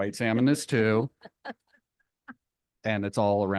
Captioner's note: board members laughing